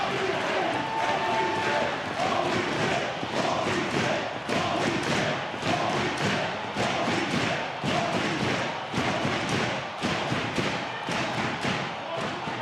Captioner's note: crowd chanting